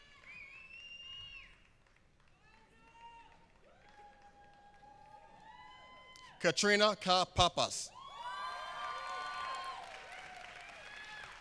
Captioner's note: applause